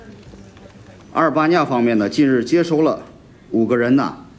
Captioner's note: speaking foreign language